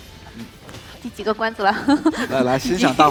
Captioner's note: laughs